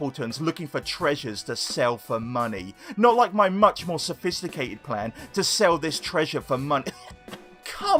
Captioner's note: cough